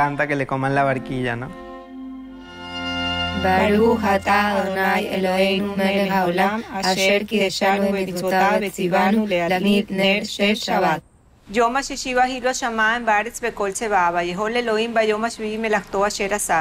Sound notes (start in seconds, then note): 3.9 praying in foreign language; 12.0 speaking in foreign language